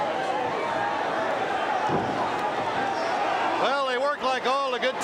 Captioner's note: crowd chatter